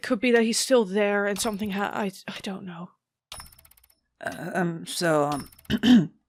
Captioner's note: rhythmic clock ticking and whirring continues; clears throat